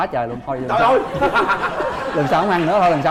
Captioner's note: laughing